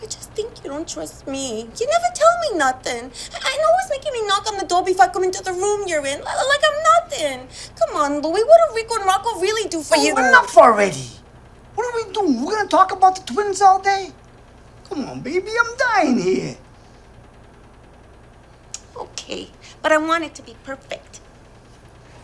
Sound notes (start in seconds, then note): 17.0 a/c continues to rumble